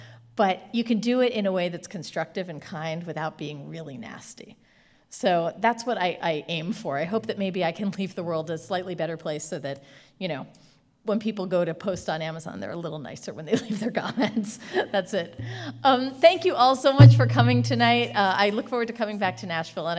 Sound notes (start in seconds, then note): 15.1 laughing